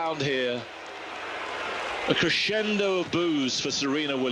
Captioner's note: crowd booing